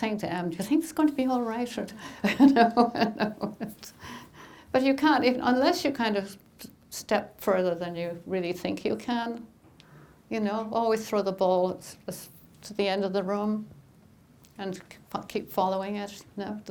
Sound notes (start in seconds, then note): 2.1 laughing